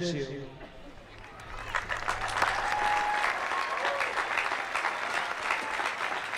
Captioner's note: applause